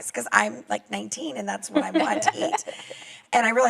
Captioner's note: laughs